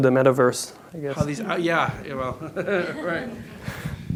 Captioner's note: chuckles